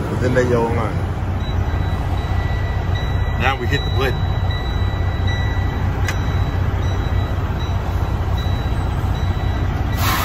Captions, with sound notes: then that yellow line. (dinging and engine rumbling) Now we hit the button. (dinging and engine rumbling)